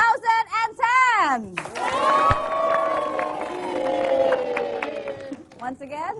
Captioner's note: applause, cheering